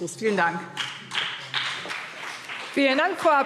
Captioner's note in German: Beifall BÜNDNIS 90/DIE GRÜNEN und vereinzelt CDU